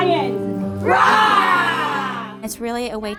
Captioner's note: students roar